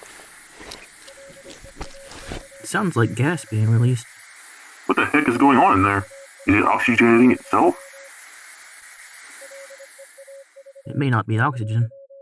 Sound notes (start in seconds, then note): 8.1 the hiss of gas being released and a strange signal grow louder